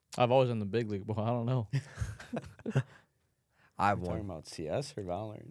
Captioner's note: laughs